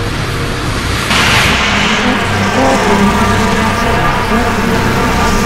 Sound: insects buzzing

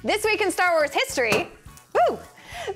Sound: pop

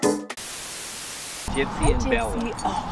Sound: TV static

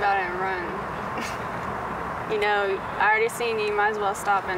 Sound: chuckles

